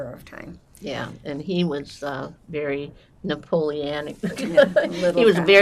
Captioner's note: laughing